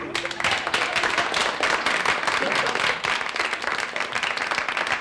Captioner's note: audience applauds